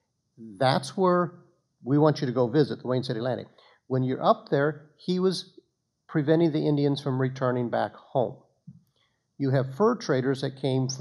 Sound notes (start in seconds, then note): none